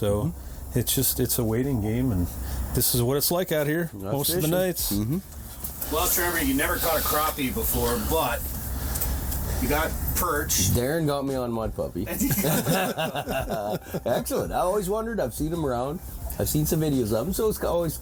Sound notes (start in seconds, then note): 12.1 group laughs